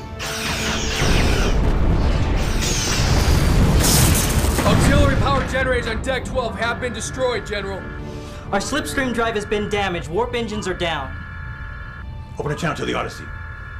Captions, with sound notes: Auxiliary power generators on deck 12 have been destroyed General! (Alarm) Our slipstream drive has been damaged! Warp engines are down! (Alarm) Open a channel to the Odyssey. (Alarm)